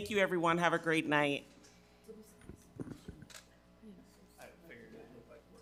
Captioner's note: people chattering